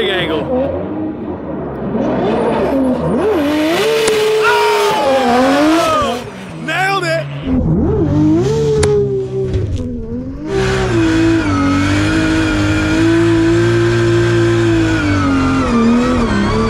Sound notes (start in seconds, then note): 7.5 engine revving